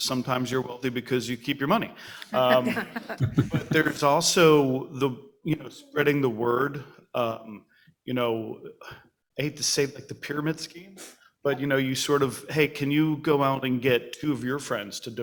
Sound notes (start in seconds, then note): 2.3 audience laughs